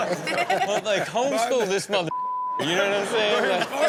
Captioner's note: beep